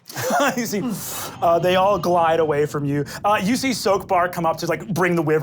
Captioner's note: sharp inhale